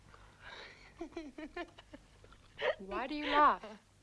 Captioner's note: Tracima laughs